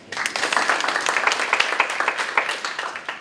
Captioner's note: applause